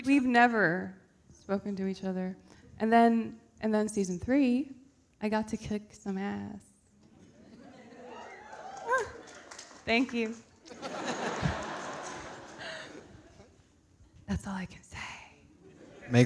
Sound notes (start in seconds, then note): 7.8 audience cheering; 10.6 audience laughing